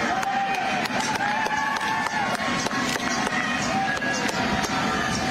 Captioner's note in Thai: ปรบมือ